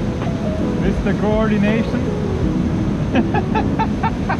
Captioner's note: laughs